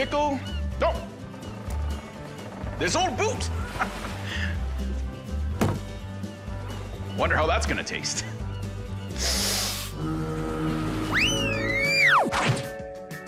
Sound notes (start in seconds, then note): 5.2 laughs; 9.1 inhales